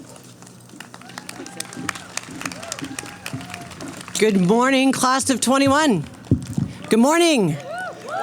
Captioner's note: clapping